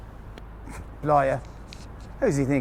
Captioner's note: scoffing